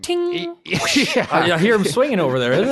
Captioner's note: laughing